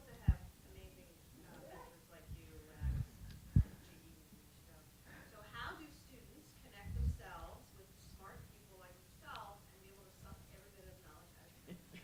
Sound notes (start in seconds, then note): 3.8 speaking faintly